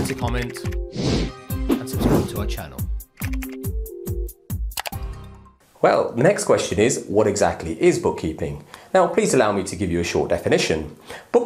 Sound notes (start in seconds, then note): 1.9 air whooshing; 3.6 upbeat music